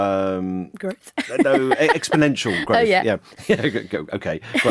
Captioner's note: laughing